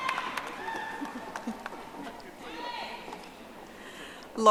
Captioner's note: audience applauding